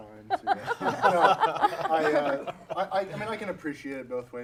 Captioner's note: laughter